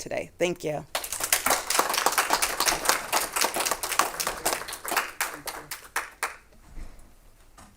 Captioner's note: clapping